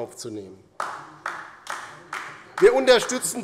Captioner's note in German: Beifall bei der LINKEN